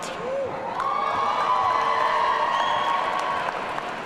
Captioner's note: audience cheering